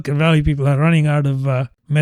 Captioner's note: uh